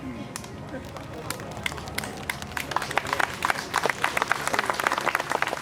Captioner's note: audience applauding